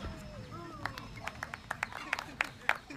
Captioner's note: applause